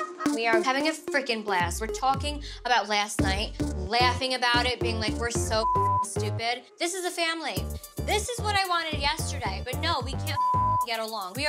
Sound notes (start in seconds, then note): 5.6 beep; 10.3 beep